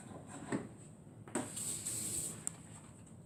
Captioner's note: running water